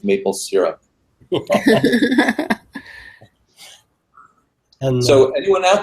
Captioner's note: laugh